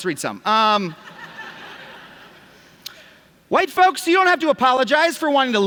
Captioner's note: laughter